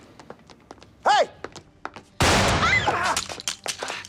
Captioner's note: screams